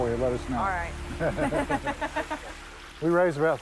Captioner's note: laughs